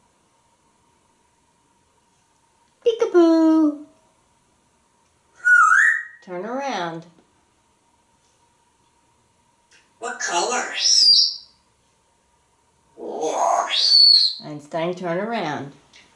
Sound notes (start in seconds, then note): 5.4 whistling